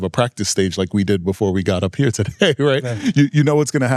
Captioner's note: laughing